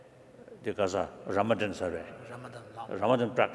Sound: speaking foreign language

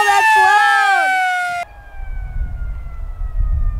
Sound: siren

